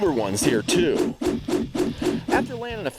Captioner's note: swooshing